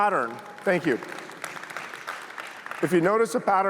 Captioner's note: applause